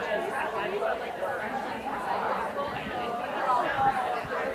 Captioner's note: people chattering continues